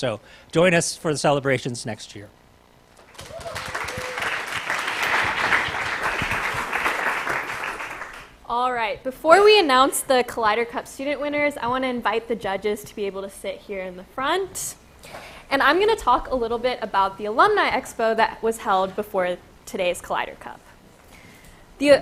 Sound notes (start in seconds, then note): 3.0 applause